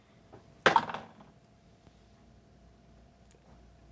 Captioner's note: dice clatter